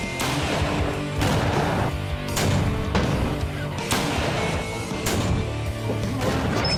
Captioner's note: gunshots